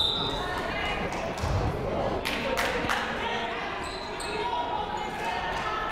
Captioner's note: whistle tweeting; people shouting in the crowd